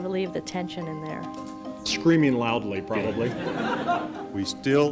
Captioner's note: laughter